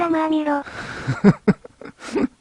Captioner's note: laughs